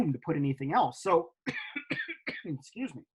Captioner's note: coughs